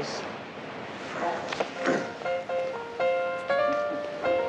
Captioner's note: clears throat; chuckling